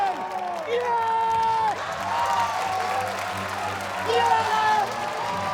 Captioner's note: cheers, applause